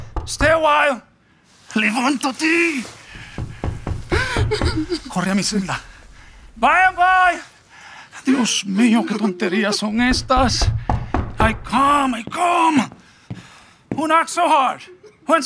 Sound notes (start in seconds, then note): 3.0 knocking; 4.0 Romeo sobbing; 9.9 knocking